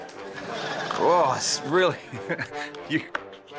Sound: laughs

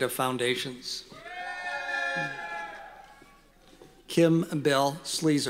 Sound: cheering

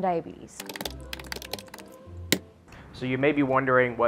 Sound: typing

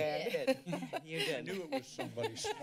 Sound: laughter

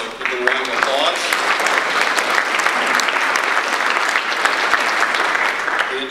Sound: audience applause

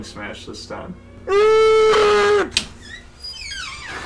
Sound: Target employee grunts; door squeaks

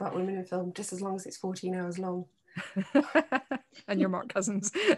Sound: laughs; she laughs

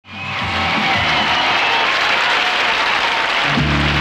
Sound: audience applauding

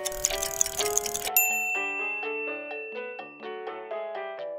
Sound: bell dinging; elevator music

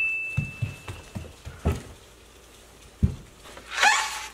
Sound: footsteps thumping

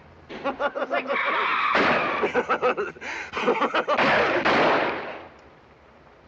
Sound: gunshots continue; tyres squeeling

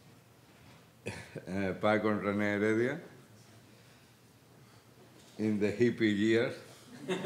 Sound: speaking Spanish

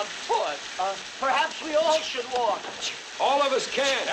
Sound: sneezing

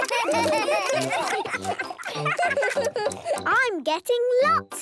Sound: giggling, chewing

